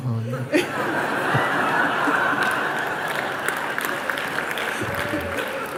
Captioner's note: risas y aplausos